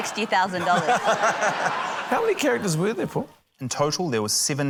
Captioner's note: laughter